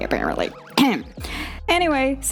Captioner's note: clears throat